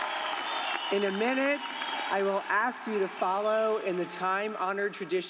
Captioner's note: cheers and applause